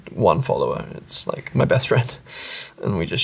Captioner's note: chuckles